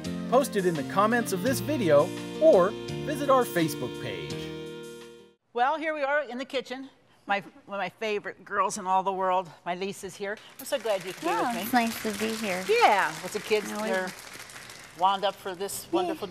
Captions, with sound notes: Well, here we are in the kitchen. My -- one my favorite girls in all the world. My Lisa is here. [Clapping] I'm so glad you could be with me. >> Oh, it's nice to be here. >> Yeah. Now, we -- >> What's the kids -- they're wound up for this wonderful day?